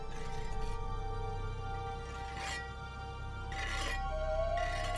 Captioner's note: metal scraping